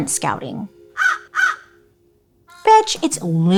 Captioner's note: cawing